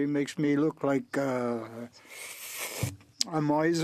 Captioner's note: speaking French